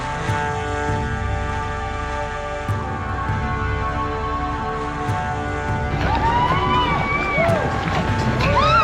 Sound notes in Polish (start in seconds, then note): 4.7 Aplauz